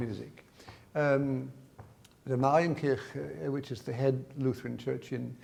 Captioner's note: speaks in foreign language